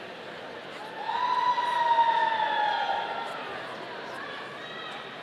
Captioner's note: audience cheering